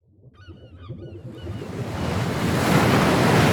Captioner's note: seagulls squawking; waves crashing